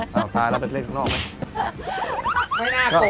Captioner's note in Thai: หัวเราะ